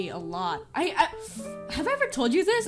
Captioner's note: stuttering